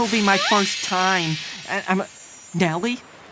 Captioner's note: magic chiming